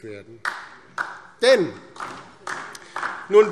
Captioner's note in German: Beifall DIE LINKE